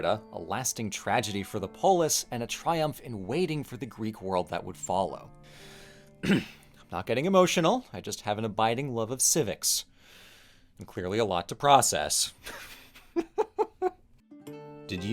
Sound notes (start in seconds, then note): 6.2 cough